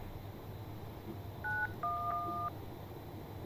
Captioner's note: dialing